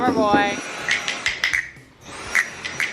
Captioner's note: vacuum cleaner roars; drum sticks clunks